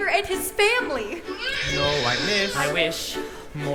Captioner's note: baby crying